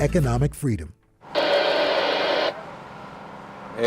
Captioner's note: radio static